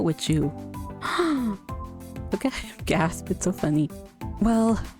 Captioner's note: surprised gasp